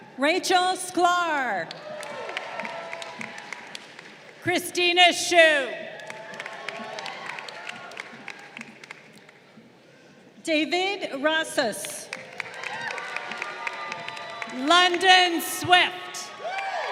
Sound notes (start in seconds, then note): 1.7 crowd cheering; 5.9 crowd applauding; 12.1 crowd cheering